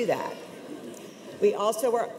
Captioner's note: audience laughs